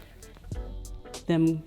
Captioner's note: hair popping